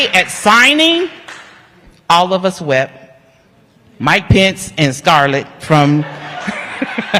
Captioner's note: applause